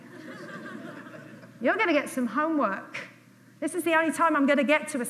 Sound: audience laughs

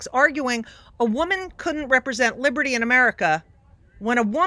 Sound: none

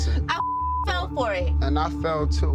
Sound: beep

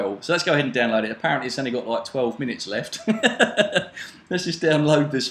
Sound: laughs

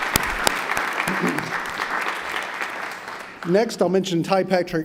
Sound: applause

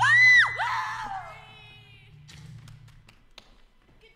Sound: wooing

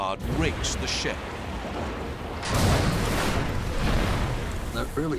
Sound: explosion

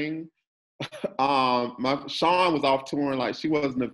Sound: chuckles

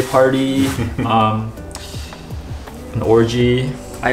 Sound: laughing

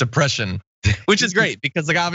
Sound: laughs

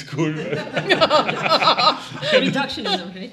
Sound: all laughing

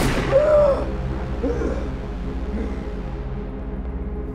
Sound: taking deep breaths

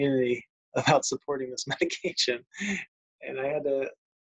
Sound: laughs

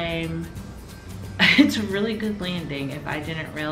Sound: laughs

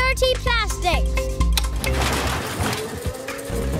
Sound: whirring

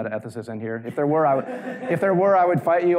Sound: audience laughing lightly

